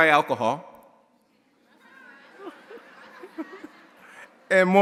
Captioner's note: audience laughing